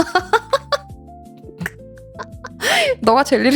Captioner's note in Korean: 웃음